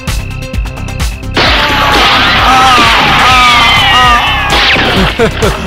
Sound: gunshot

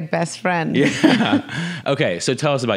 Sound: both laughs

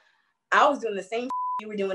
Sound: beep

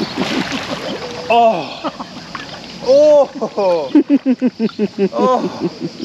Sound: laughter

